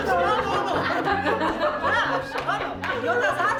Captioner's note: laughs